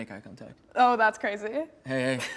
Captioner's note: laughs